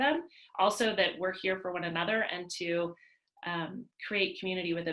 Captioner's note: none